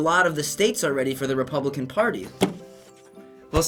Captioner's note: slams table